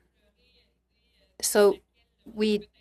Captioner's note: speaking french